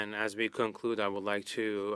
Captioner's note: speaking French